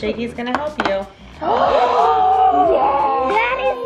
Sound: all gasping

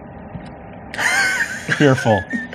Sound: laughs

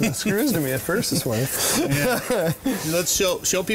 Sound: laughs

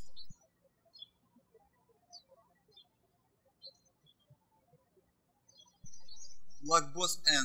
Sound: birds chirping

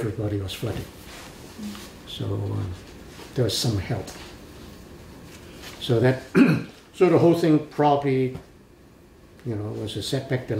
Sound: coughs

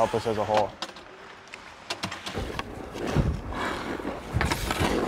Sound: skates scraping

